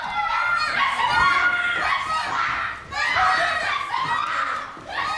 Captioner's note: woman screaming; shouting, screaming continues